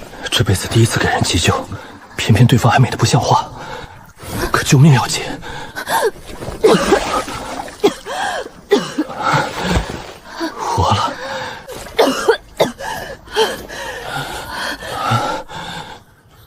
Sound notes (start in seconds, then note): 6.4 cough, cough; 11.7 cough, cough